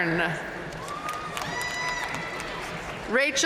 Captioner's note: audience cheering and applauding